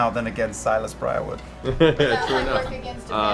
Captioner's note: laughs